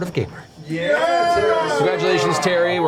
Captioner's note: all cheer